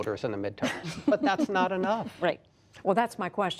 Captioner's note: laughter